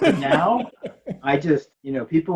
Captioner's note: laughing